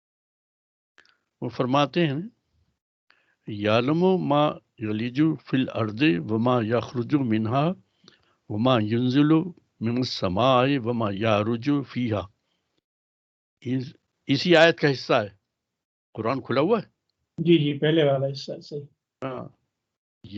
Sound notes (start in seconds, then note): 4.8 recites arabic